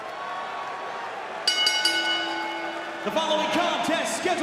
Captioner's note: bell ringing